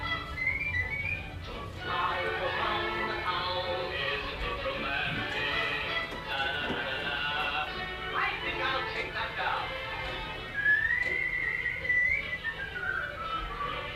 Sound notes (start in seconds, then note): 0.0 whistling; 5.2 honking; 10.1 whistling